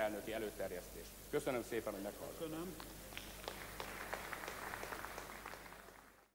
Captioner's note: applause on the right